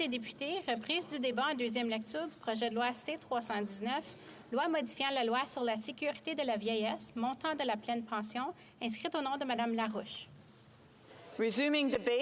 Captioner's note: speaking French